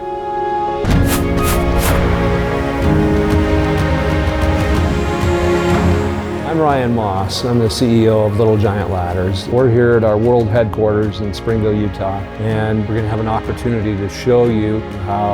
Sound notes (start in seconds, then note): 0.1 bright gentle music; 1.0 banner whooshing; 2.4 bright bold music